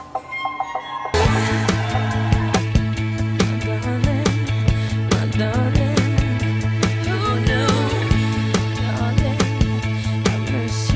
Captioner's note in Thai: ปรบมือ